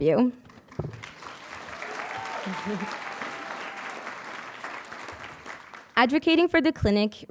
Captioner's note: audience cheering and applauding